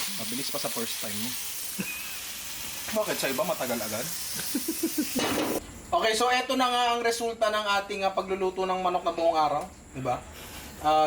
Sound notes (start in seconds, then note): 4.3 laughs in Japanese